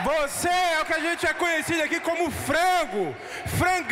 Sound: speaking Portuguese

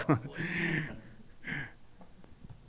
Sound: chuckling

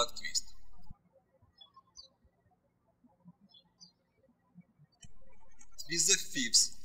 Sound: birds chirping

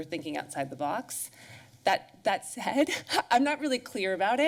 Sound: laughs

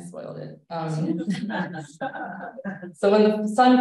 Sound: laughter

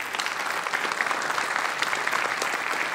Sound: applause

